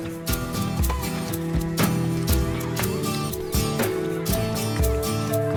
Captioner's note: campers faintly shouting